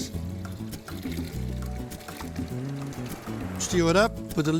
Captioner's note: liquid pouring